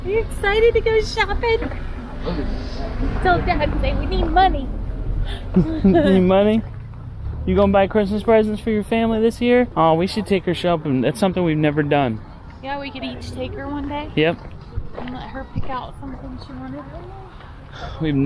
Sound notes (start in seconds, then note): 5.2 laughing